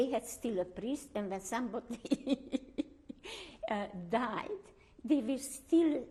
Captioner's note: laughs